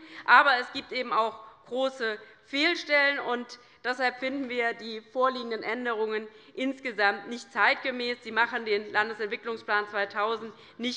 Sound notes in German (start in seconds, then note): none